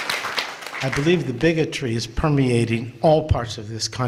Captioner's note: applause